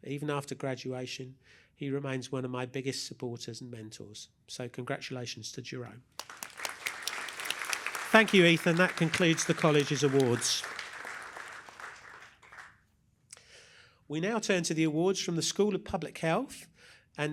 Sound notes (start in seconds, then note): 6.1 applause